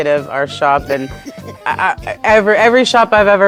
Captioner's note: laughing